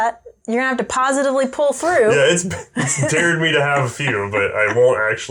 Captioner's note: laughter